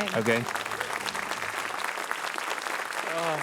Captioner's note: applause